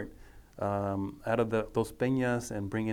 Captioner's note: speaking foreign language